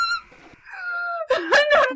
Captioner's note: deep inhale